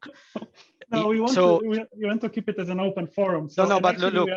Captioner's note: chuckling